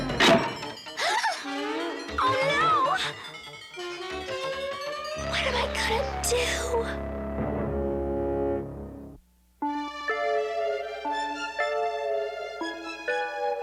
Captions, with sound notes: [GASPS] OH, NO! WHAT AM I GONNA DO?